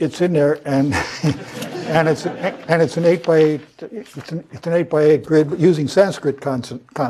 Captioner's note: laugh